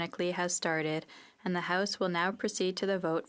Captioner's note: speaking French